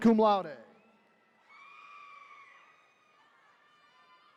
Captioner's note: attendees cheering